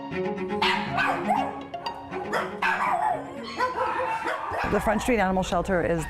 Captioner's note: dogs barking